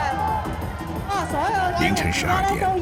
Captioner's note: game sounds